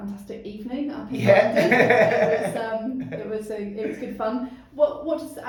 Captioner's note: laughing